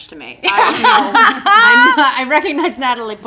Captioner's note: laughing